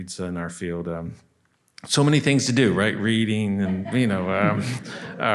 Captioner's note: laughter